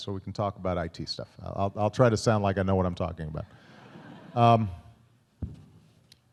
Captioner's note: laughter